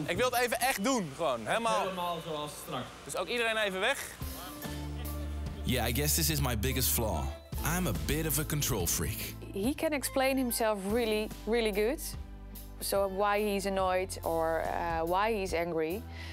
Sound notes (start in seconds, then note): 0.2 speaks in foreign language